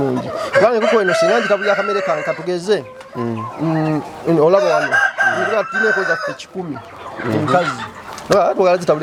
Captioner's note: hens